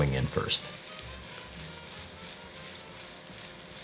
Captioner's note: skillet ingredients sizzling